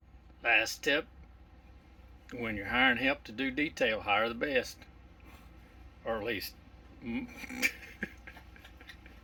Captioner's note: both start to giggle